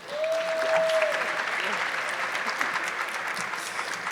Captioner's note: audience clapping